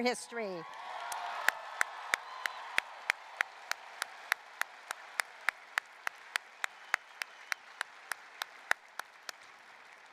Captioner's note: applause, cheering